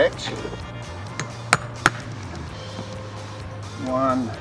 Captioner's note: hammer clacks